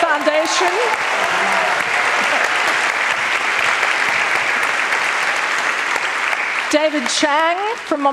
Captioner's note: applause